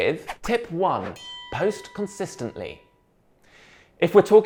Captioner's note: bell rings